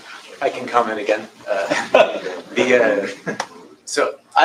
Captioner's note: laughter